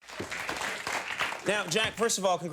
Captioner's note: audience applauding